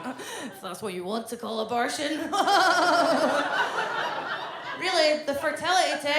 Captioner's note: laughs